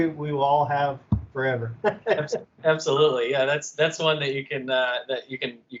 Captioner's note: laughter